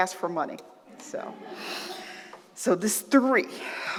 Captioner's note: laughter